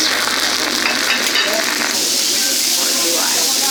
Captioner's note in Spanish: sonidos de chisporroteo